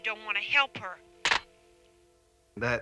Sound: receiver clicks

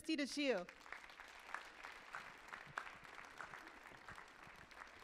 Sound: audience applauding

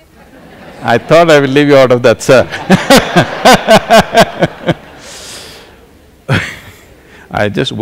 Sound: laughter; laughter

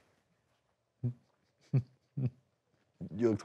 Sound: laughs

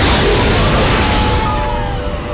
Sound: men yelling

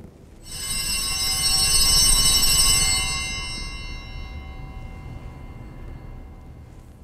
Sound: bells ringing

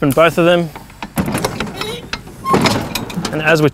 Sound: loud banging

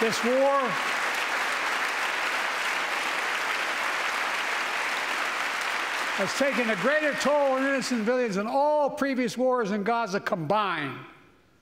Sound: applause

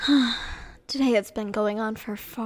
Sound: sigh

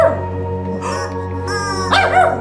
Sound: dog barking; honking; dog barking

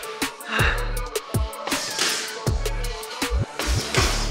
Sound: unusual punch sounds coming from behind

